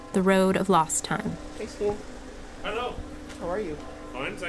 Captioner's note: footsteps as entering the property. Church bells chime deeply, nearby